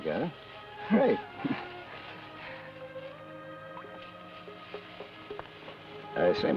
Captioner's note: chuckles